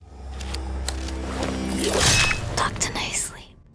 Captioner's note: blade slashing; spooky music